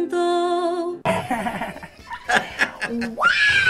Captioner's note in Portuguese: Inês ri